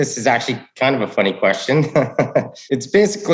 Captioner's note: chuckles